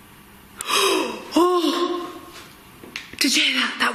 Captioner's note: gasping